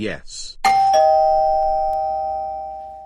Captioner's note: doorbell rings